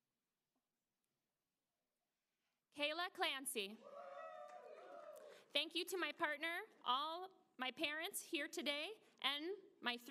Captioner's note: applause